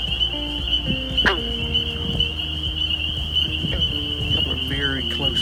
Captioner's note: frog thrumming